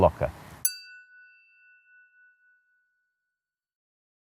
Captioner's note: chiming tone